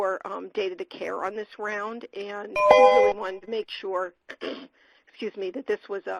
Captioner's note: computer tone; clears throat